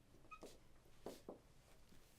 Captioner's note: door opens; footsteps